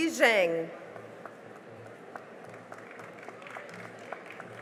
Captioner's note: cheering and applause